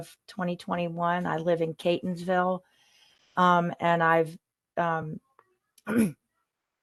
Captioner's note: cough